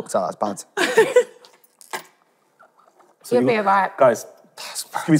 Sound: laughing

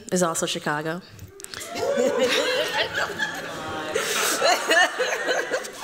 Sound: laughter

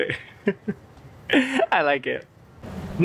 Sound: chuckles

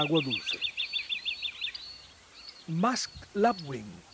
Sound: birds chirps

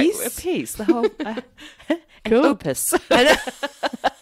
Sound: laughs

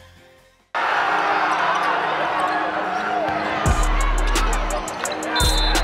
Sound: crowd cheering; hip hop music; crowd cheering

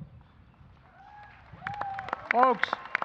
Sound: applause

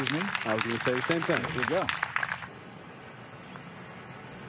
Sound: applause

